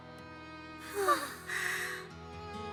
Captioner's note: amused gasp